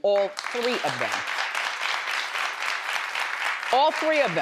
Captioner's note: crowd applauding